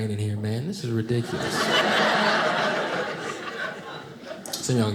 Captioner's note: audience laughing